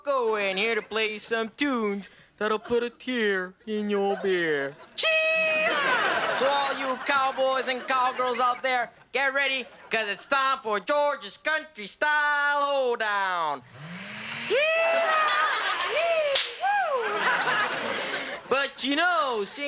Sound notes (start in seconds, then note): 4.9 George cheers; 15.7 fake gun firing; 17.2 George laughs; 17.2 audience laughing